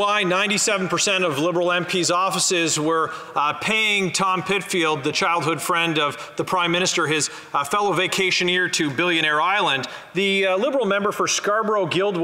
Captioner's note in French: voix de l'interprète